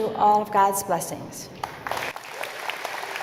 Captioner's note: applause